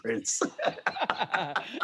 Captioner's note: laughing